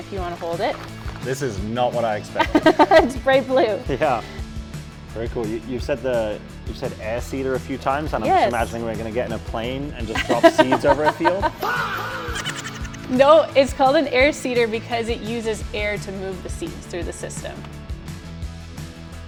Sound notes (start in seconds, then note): 10.1 laughs